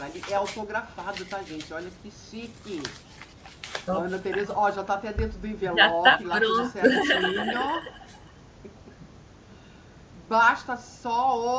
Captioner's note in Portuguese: risadas